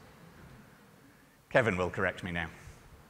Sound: speaker is off microphone

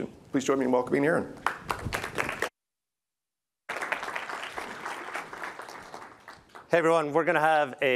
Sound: applause

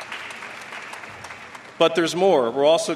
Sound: applause

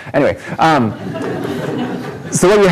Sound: audience laughs

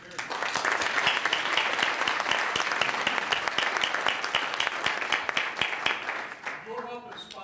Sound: applause

